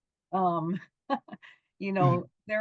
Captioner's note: laughing